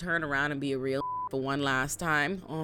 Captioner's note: beep